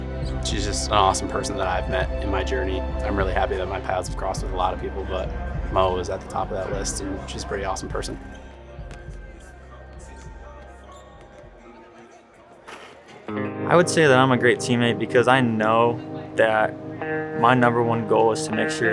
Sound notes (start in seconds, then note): 8.8 balls bouncing; 10.0 shoes squeaking